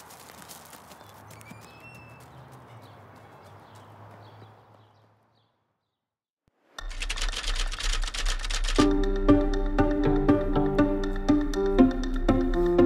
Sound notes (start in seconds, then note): 6.8 typewriter clanks; 8.7 curious music